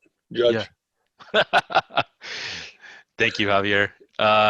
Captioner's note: laughing